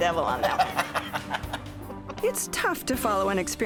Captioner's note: laughs